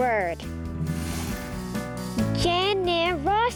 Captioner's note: air whooshing